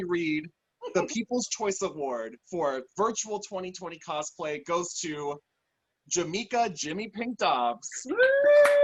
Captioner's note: applause